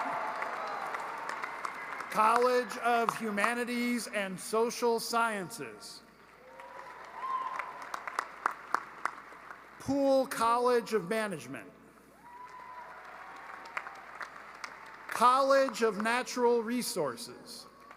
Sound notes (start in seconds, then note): 0.0 applause; 7.2 cheering and applause